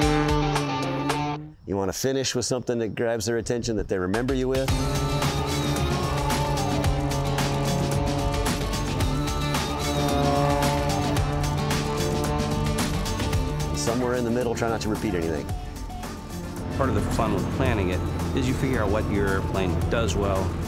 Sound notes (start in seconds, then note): 4.7 airplane humming; 5.2 energetic music